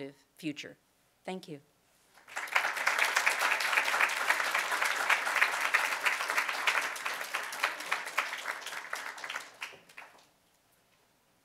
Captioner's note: applause